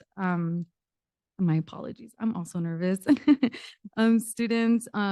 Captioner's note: giggle